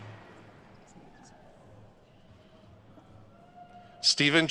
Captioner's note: speaking faintly